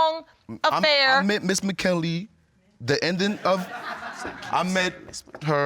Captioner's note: audience laughs